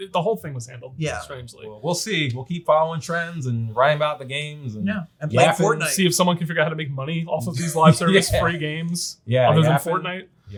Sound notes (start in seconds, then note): 7.5 chuckles